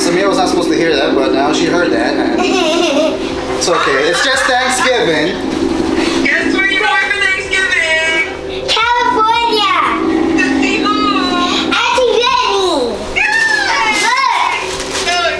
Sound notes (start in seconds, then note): 2.4 laughs